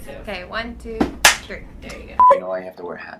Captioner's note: claps